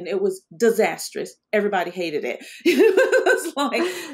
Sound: laughs

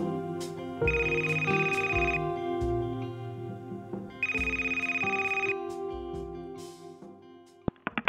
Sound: phone rings

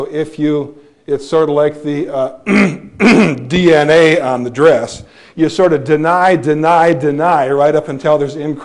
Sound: clears throat

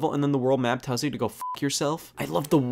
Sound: beep

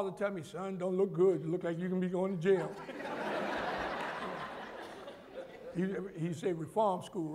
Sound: laughter

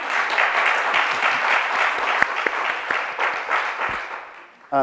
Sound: audience applauds

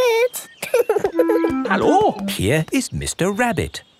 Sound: laughing

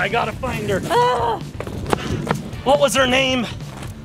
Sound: mom shouts

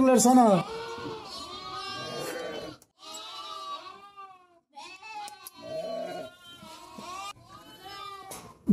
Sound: lamb sheep bleating sounds meeee meee meee

